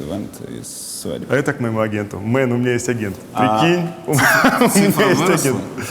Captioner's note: laughs